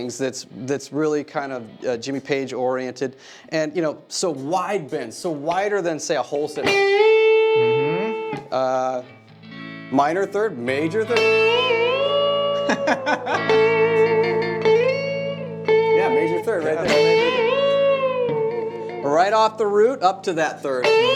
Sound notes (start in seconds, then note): 12.3 laughing